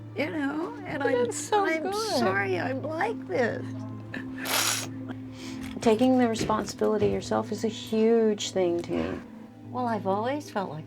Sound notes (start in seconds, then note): 4.4 sniffs